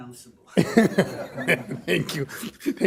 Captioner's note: laughter